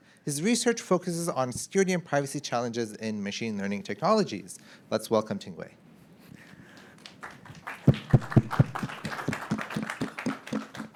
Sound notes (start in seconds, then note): 6.8 audience applauding